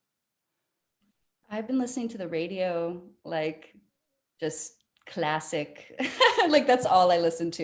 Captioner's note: laughing